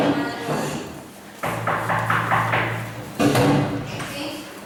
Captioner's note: knocking on the door